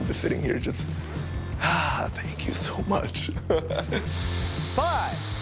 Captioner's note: laughing